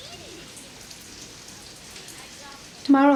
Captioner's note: children chattering; rain pouring